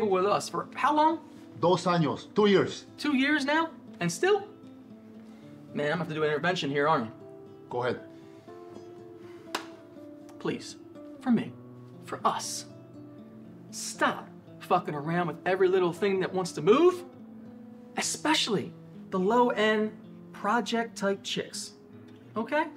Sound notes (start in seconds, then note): 2.0 foreign Language